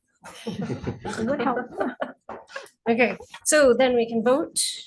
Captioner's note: laughing